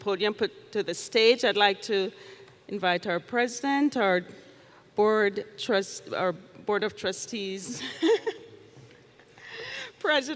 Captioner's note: laughs